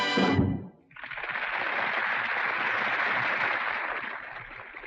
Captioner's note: audience applauding